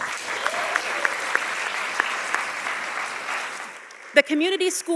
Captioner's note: audience applauding